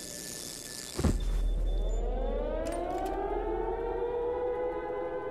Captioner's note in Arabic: صوت صفير; أزيز كهربائي; صفارات الإنذار